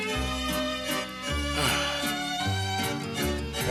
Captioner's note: sighs